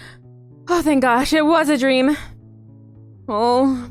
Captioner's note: breathing heavily